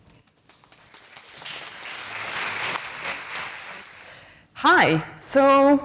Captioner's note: applause